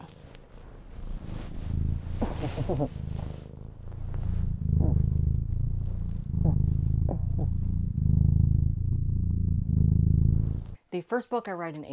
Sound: cat purring

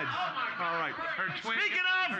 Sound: loudly laughing

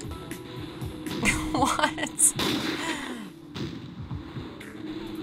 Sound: chuckling

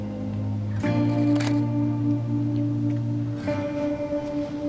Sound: shutter closes

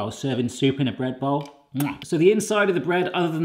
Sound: kissing

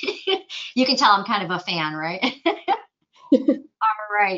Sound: chuckles; chuckling

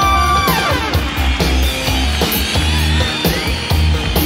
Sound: crowd cheering

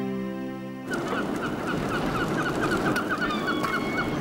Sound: birds cawing

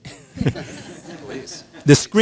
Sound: audience laughs

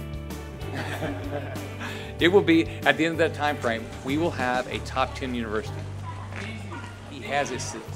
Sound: laughs

